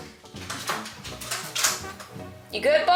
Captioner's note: loud toy being batted around